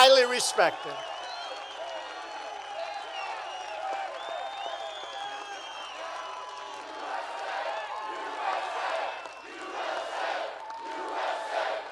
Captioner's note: applause